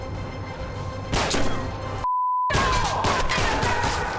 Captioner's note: gunshot